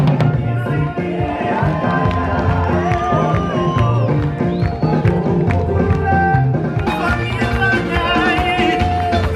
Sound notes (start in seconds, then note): 1.6 crowd applauds